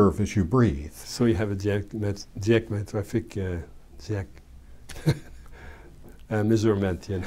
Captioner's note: laughs